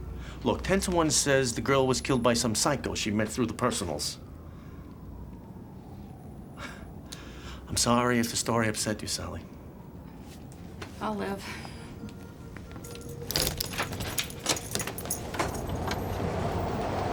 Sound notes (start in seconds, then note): 12.6 keys clanking